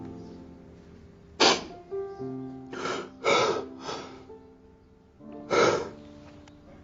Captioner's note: sobs and gasps